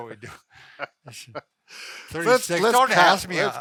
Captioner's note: laughing